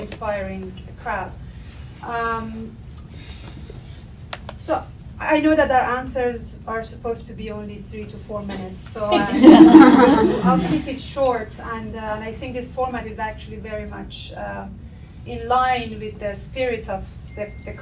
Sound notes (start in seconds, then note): 9.2 audience laughter